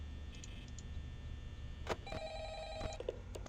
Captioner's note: phone is still ringing